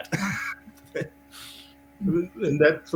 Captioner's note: laughs